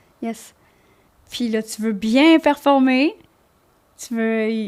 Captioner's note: in french